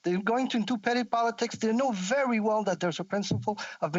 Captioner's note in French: voix de l'interprète